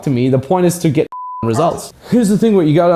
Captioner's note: beep